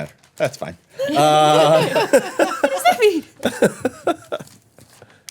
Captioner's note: everyone laughing